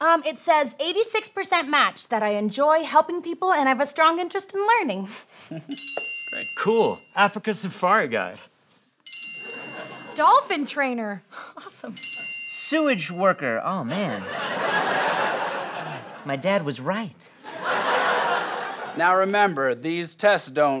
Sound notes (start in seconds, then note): 5.7 bell noise; 9.0 bell noise; 11.9 bell noise